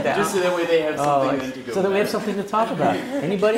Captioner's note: laugh; laugh